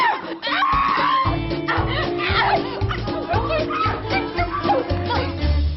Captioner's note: they scream and fight